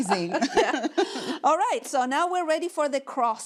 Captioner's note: laughing